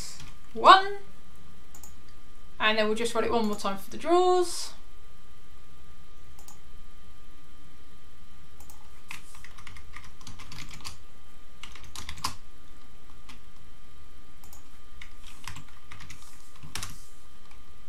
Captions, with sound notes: And I'll just want it one more time for the draws. (keyboard clicking)